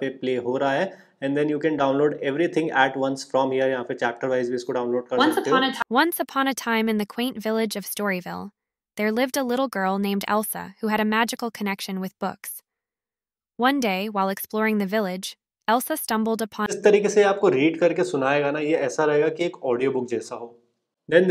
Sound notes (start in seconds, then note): 5.9 ai voice